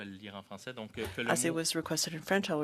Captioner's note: speaking French